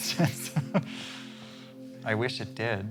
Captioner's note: laughing